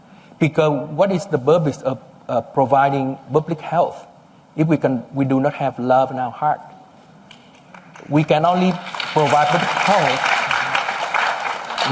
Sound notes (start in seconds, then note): 7.7 applause